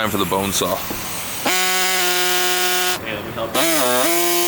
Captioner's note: saw buzzing